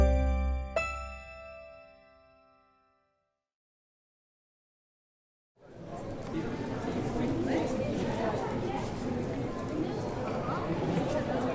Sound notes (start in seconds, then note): 0.0 piano chiming; 5.6 crowd chattering